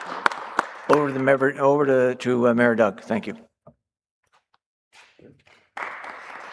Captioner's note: applause